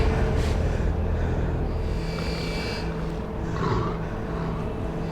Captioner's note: dramatic orchestral music; Jed breathing heavily